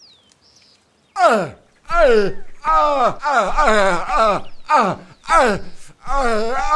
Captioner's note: old man in pain